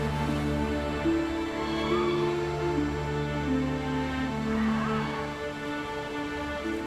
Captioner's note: sirens calling